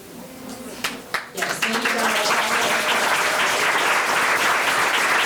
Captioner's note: board members applauding